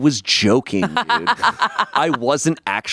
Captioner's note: laughs